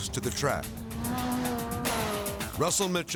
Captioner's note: engine revving